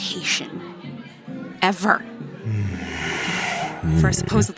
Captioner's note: growled